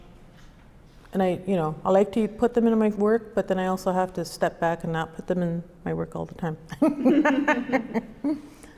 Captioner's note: laughs